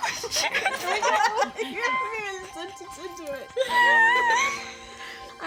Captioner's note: starts to cry then laughs when family laughs